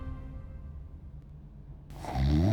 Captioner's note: Hank snoring